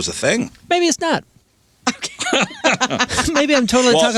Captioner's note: laughing